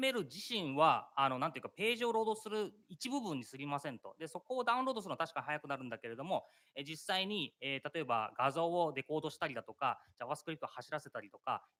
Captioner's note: speaking japanese